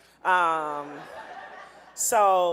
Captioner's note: audience laughing